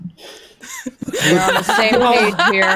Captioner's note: laughing